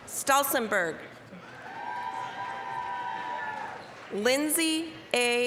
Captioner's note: applause, cheering